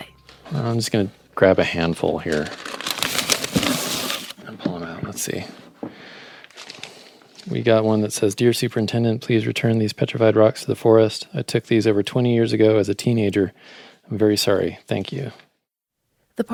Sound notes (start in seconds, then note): 2.0 sound of papers rustling